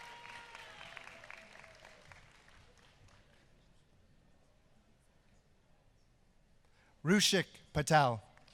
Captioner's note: applause